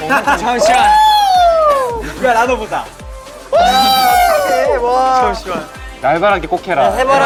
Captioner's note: penalty prop induces laughter + scream of joy